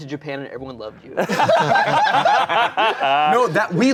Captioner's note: everyone laughing